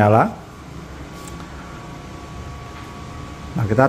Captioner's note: PET film noise